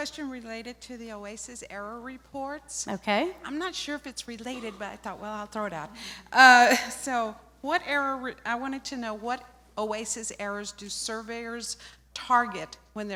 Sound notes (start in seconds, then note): 7.0 laughter